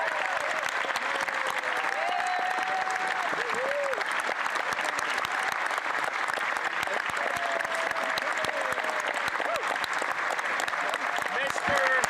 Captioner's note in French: applaudissements